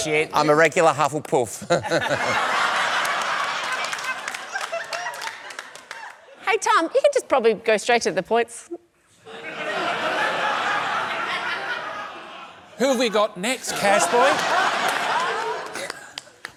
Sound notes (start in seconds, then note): 1.6 chuckles; 1.6 laughter, applause; 9.2 laughter